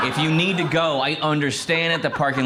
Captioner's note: crowd laughs